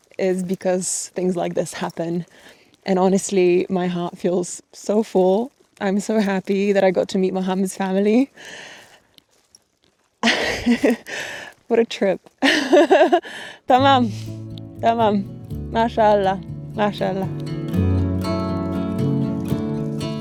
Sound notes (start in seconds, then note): 10.1 laughs; 13.7 speaks foreign language